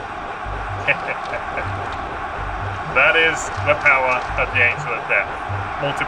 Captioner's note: mischievous laughter